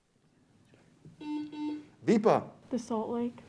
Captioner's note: buzzer beeps